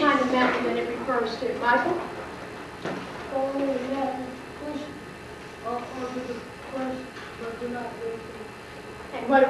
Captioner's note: student responds quietly